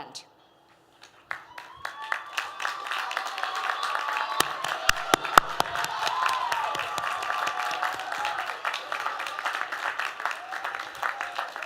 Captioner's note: applause